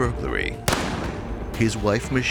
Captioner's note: gun bang